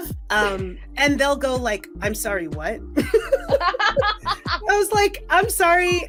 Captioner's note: laughs